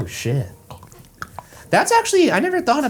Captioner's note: Shane munching